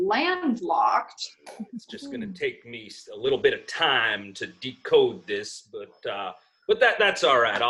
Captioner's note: giggling